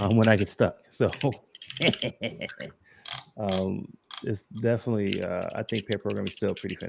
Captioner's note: laughs